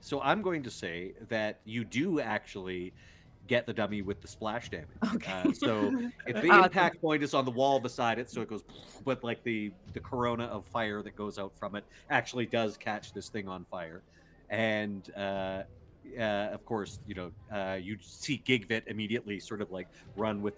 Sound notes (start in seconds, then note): 5.1 chuckling; 8.6 imitating explosion